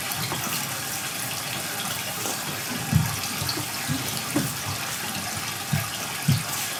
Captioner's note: water trickling continues